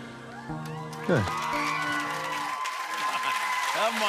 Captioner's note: cheers and applause